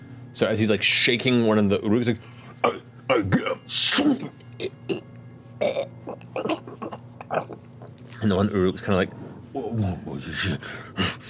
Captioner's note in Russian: хрипит